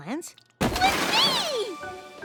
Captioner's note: crash